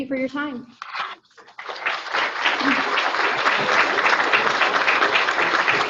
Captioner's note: audience applauding